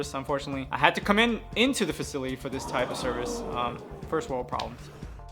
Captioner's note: gasping crowd